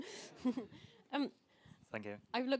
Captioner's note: laughter